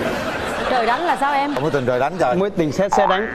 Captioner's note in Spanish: risas